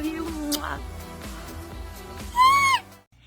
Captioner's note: kiss; squeal